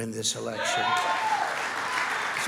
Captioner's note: cheering and applause